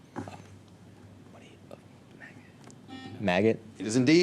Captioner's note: whispers; buzzer